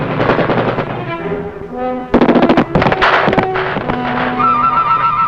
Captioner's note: speaking in foreign language